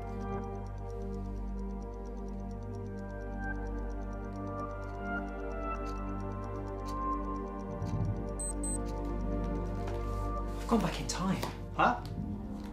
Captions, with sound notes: *Ticking Clock* *Electronic Watch Beep* -I've gone back in time! -Huh?